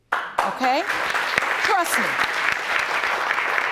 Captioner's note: audience applauding